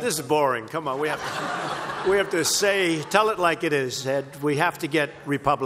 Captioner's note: laughter